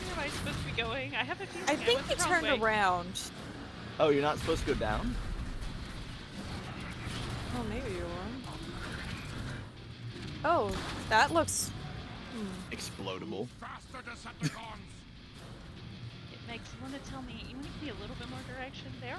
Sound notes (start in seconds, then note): 14.0 laughs